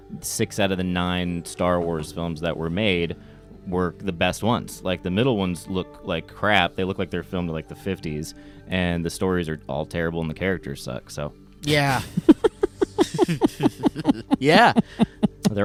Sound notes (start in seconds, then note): 11.7 laughing